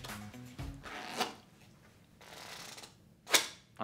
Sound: cards making awkward rip

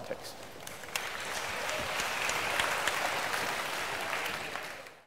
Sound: applause

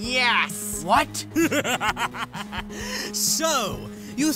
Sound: sunset laughs evilly

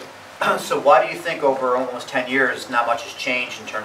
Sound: voiceover

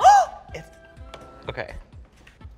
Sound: gasps

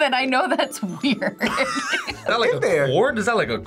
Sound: both laugh

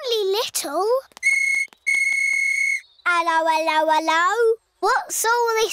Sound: blows whistle

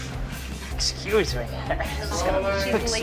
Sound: light chuckling

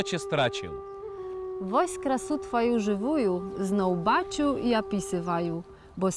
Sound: reciting a poem by Adam Mickiewicz in Belarusian

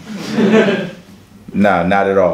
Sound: laughs

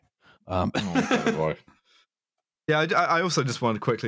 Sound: laughter

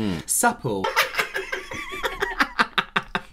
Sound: crazy Kooky Laughter

